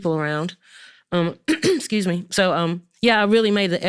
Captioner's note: clears throat